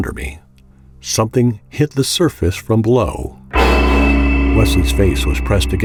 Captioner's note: JUMP SCARE: sudden loud hit